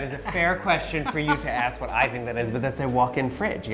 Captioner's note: laughs